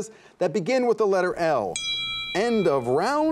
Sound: timer dings

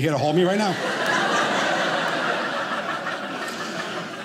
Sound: audience laughing

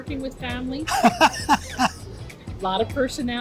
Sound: laughs

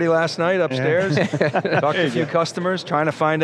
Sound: laughs

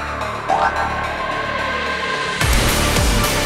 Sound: poof!

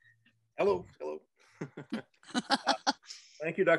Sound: both chuckle

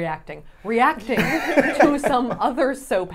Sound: laughs

